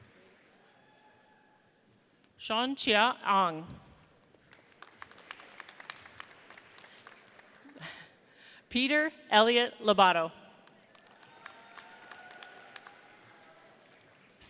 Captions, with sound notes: Chon Chin Arg. (audience applauds) Peter Elliott Lobato. (audience applauds)